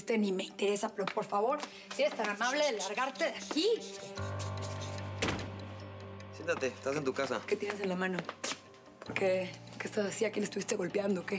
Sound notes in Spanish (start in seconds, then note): 5.1 sonido al cerrar la puerta